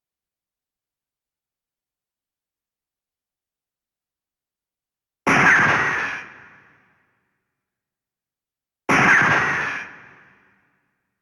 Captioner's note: gunshot